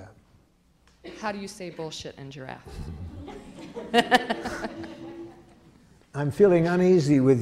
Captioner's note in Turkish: Gülüşmeler